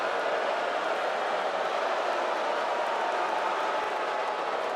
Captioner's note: applause